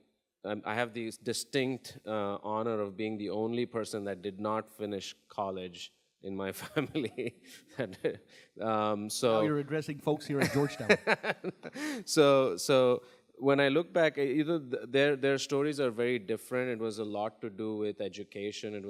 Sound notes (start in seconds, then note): 6.6 chuckles; 10.4 laughs